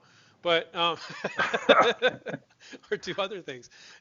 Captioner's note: all laughing